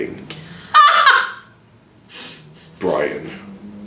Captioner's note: laughs